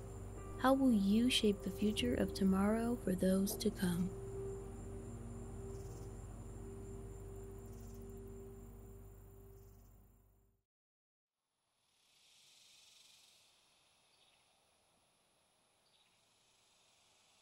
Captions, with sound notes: How will you shape the future of tomorrow for those to come? [music fades] [cicadas humming]